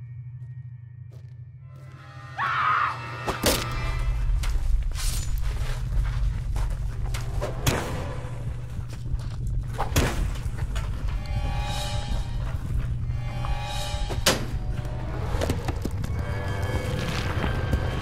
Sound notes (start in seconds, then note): 2.3 Lindsay screams; 3.6 ax thudding